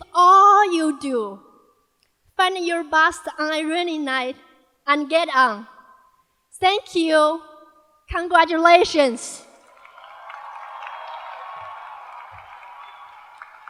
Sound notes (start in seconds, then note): 5.0 applause